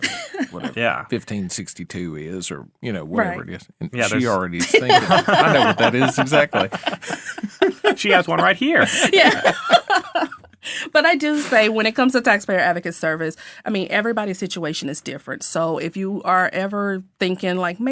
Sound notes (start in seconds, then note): 0.0 laughing; 6.5 all laughing; 10.1 laughing